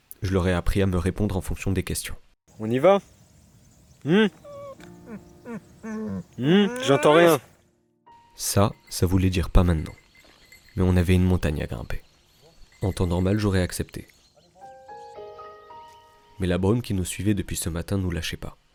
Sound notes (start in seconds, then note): 4.4 squeak of refusal; 5.8 voluntary sneeze